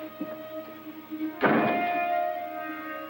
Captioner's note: door slam